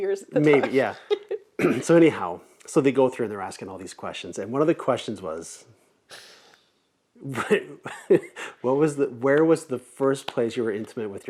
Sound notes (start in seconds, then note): 7.3 laughs